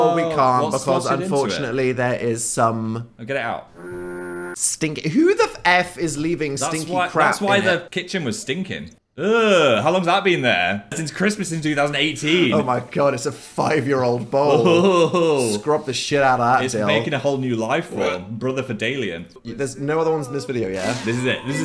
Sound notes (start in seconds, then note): 3.8 horn noise